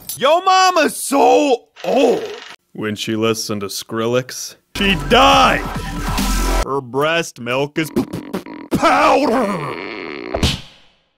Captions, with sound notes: Yo mama so old when she listened to Skrillex she died. Her breast milk is (stutters) powder.